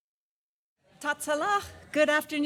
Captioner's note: non-english